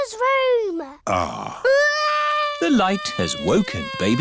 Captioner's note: crying